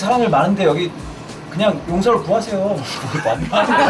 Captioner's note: chuckling